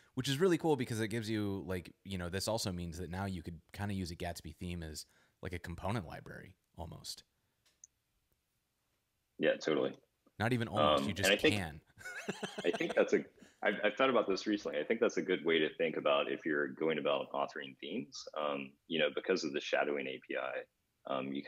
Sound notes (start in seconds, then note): 12.0 laughs